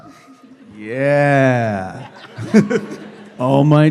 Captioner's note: laughs